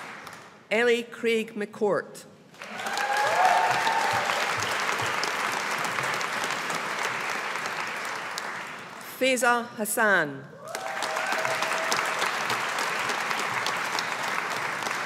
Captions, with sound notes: Ellie Craig-McCourt. (AUDIENCE APPLAUDING) Faiza Hassan. (AUDIENCE APPLAUDING)